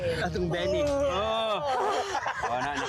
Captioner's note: jokingly groans, laughs